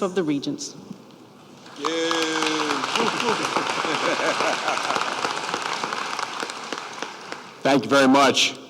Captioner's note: applause